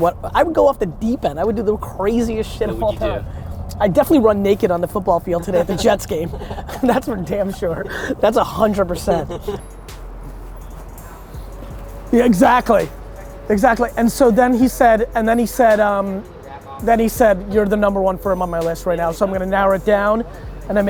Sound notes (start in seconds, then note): 5.2 laughs